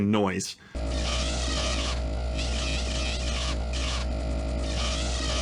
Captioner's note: grs drone whirring menacingly